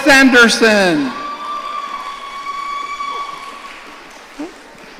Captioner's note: audience cheering